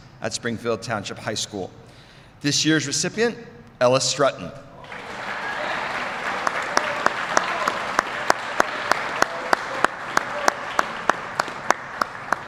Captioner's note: applause